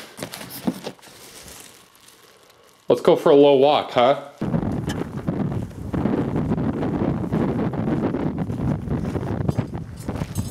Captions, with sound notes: Let's go for a little walk, huh? (wind gusting)